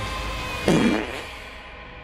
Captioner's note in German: Furzgeräusch